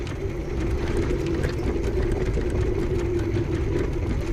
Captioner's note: engine rumbling